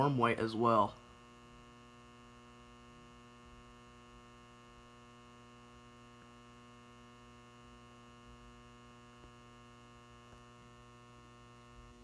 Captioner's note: ballast Buzzing